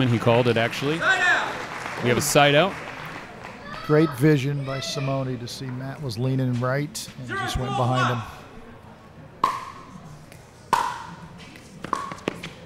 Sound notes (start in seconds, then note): 0.0 audience applauding; 9.7 ball bouncing